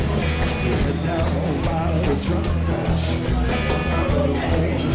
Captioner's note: bar sounds